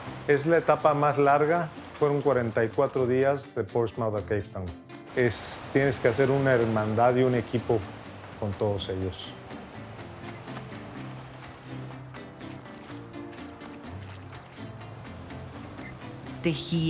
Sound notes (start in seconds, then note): 8.5 strumming continues; 9.0 wet clothes squelching